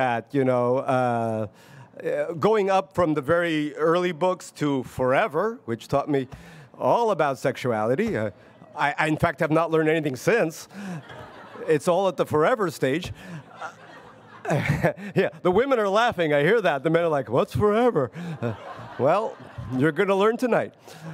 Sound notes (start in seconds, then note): 10.7 audience laughs; 13.2 laughs